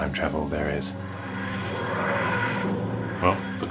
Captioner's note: Tardis Sound Effect